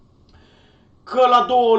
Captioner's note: inhales